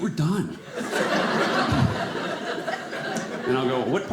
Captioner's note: audience laughing